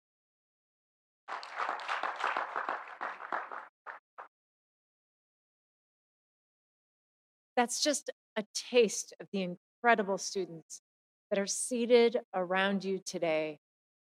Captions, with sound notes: (audience applauding) - That's just a taste of the incredible students that are seated around you today.